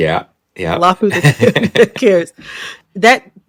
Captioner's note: laughter